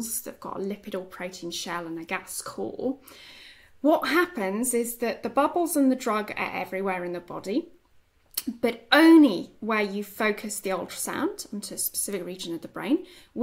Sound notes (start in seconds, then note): none